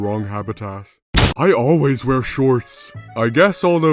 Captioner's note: explosion